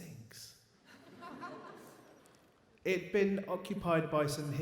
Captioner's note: audience laughs